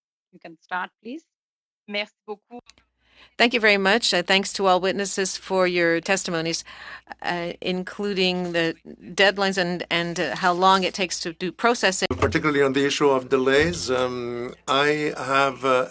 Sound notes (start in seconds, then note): 9.8 speaking French